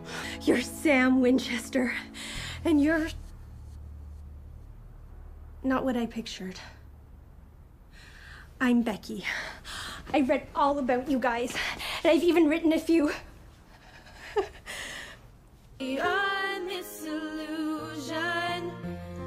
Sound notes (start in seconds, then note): 13.8 laughs